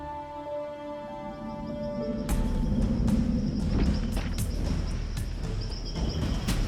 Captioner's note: birds chirping; air whooshing; suspenseful music